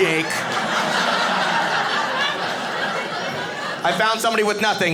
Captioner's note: audience laughing